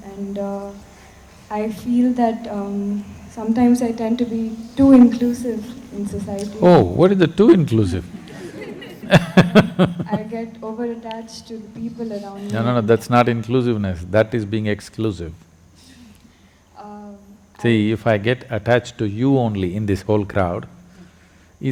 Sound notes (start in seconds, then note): 8.1 laughter